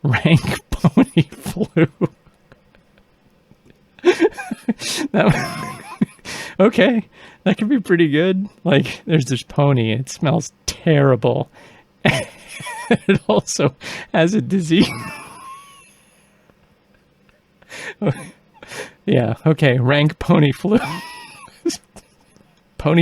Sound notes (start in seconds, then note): 0.1 cracking up laughing; 4.0 laughing uncontrollably; 14.8 laughing uncontrollably; 20.7 laughing more